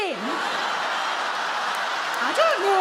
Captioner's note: audience laugh